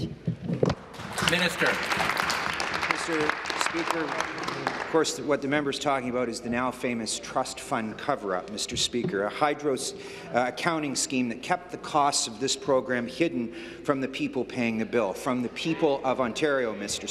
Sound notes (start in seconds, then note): 3.8 applause